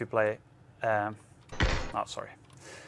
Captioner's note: gunshots